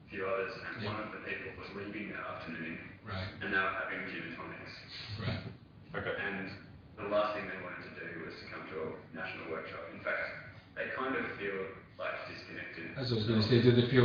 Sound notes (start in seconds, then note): 3.2 audio distorts; 5.3 chuckles